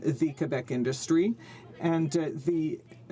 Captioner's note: speaking French